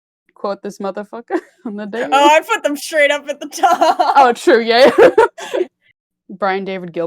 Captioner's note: laughs